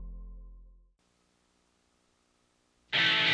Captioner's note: silence